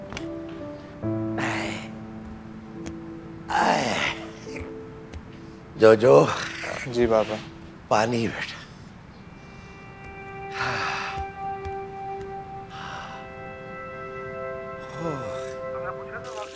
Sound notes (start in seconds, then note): 3.4 exhales heavily; 10.4 breathes heavily